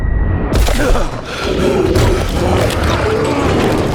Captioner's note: gasping as sound normalizes